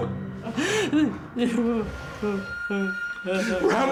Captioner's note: sobbing